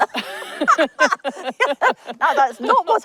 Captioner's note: everyone laughs